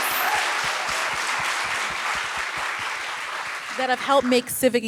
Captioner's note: applause